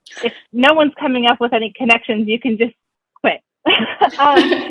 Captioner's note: laughing